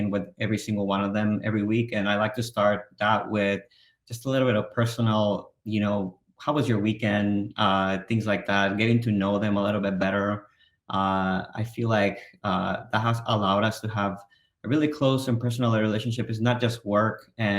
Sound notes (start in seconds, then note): none